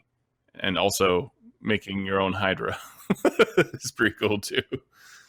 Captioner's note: laughs